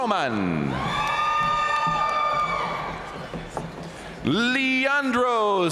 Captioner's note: audience cheering and applauding